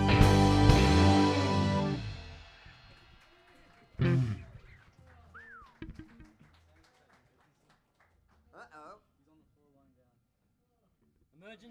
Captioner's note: applause